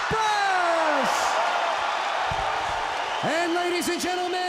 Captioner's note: crowd cheering